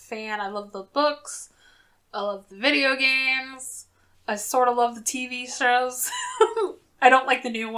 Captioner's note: laughs